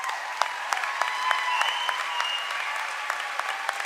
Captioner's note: cheering and applause